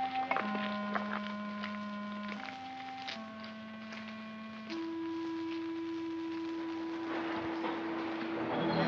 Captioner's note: melancholy music; sounds of tools chipping; melancholy music; footsteps crunching; sinister music